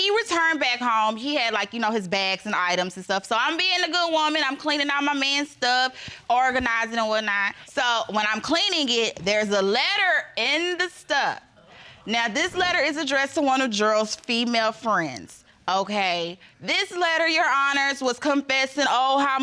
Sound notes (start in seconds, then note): none